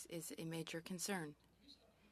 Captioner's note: speaking French